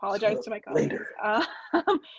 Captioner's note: laughs